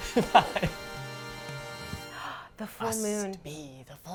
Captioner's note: laughs